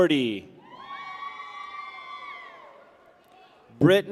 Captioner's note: people cheer